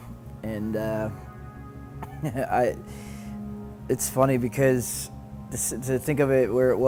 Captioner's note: chuckles